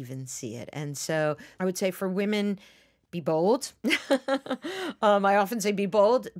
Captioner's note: laughs